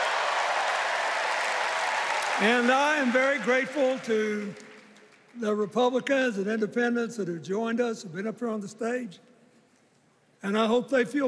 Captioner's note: cheers and applause